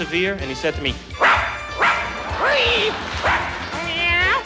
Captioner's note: barks like dog